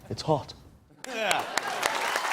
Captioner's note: laughter, cheers, applause